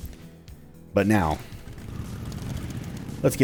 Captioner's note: engine starts